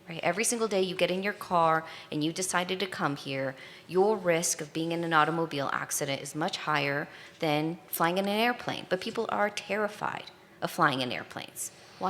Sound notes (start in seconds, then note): none